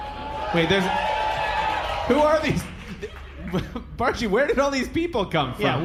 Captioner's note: audience cheering